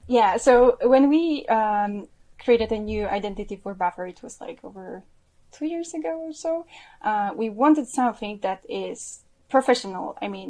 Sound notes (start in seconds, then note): none